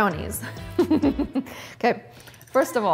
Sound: laughs

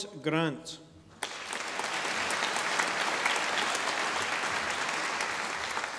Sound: audience applauding

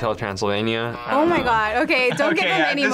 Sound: bell rings; buzzer rings

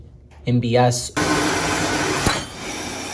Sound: machine whirs; metallic clang

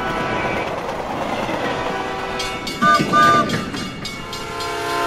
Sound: train horn hooting

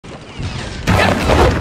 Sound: ww1 sounds

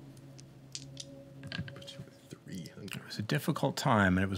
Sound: dice rolling

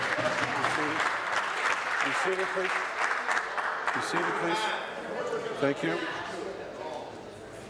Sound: applause

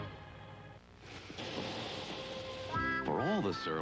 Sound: sizzling meat

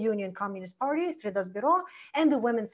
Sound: foreign language

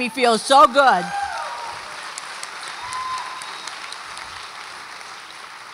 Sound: audience applauds and cheers

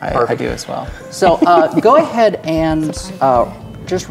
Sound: quietly

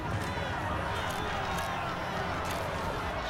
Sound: camera shutters clicking

